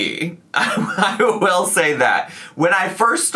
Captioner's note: laughs